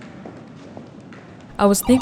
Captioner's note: video game noises